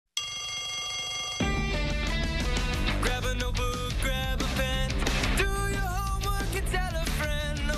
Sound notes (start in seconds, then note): 0.2 bell rings